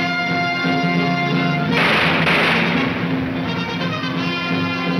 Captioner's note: gunshots banging